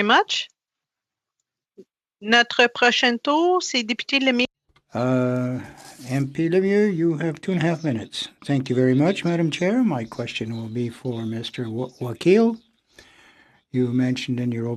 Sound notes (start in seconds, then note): 11.5 speaking French